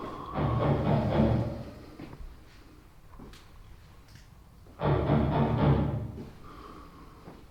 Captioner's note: loud thuds in the distance